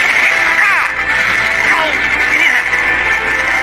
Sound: grunting, groaning

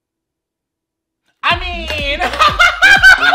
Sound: laughs hysterically

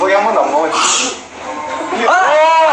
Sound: sneezing tho kkk XD

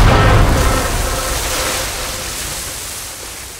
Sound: water swooshing

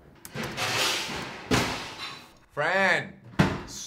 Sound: dishes clanking

